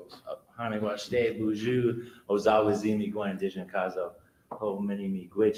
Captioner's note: speaks foreign language